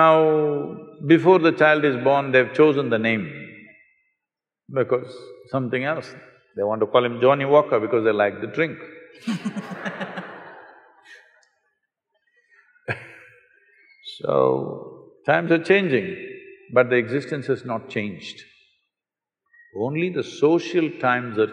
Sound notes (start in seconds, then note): 9.2 laughter; 9.2 laughs